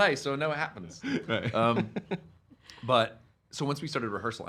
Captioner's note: laughing